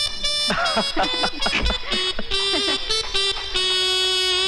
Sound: laughs

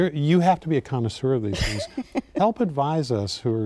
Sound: laughing

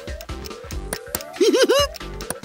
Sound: giggling

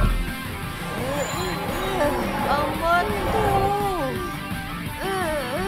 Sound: tortured groans

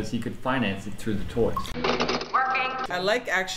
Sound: computer voice

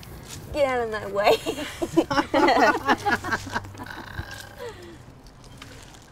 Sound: laughter

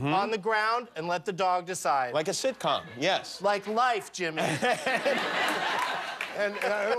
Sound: laughter

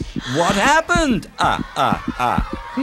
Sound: children chattering

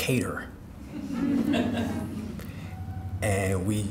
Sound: audience laughing

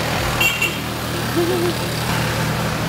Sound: car honking

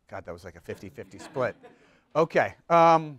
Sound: group laughs

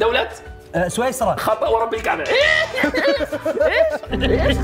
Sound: laughs

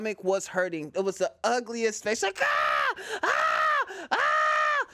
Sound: screams

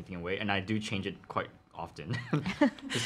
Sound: laughs

